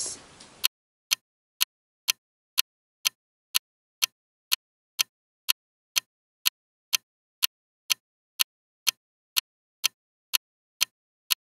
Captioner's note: ticking clock sound